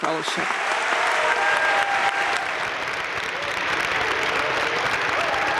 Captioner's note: audience cheering and applauding